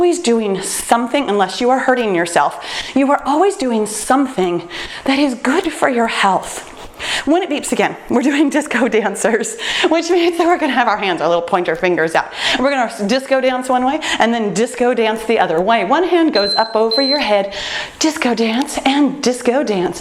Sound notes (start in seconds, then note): 16.3 timer beeps